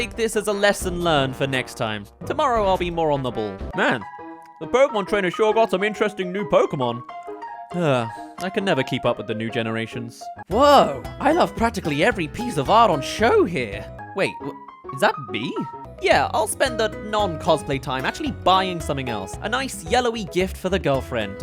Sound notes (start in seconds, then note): 7.7 sigh